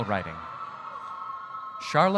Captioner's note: audience cheering